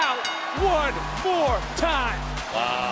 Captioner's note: bell rings